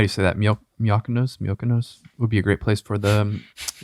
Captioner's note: stammering